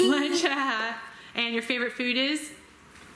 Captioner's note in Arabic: يضحك